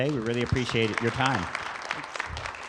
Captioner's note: crowd claps